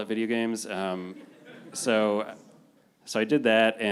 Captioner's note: panelists and audience laughing